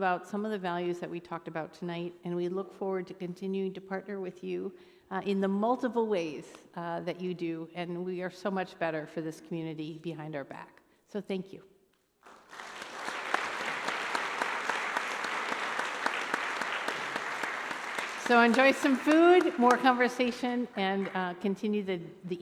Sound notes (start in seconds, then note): 12.2 applause